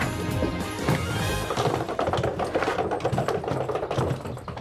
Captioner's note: rolling luggage